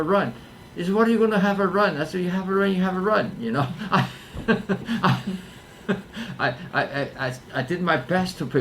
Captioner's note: laughs